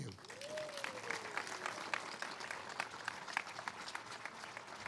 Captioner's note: all applauding